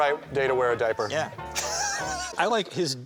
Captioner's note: laughs